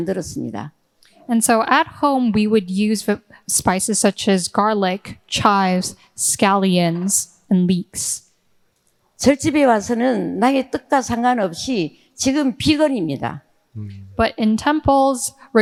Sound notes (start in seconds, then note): 9.3 speaking in foreign language